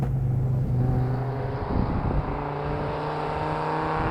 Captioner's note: engine revving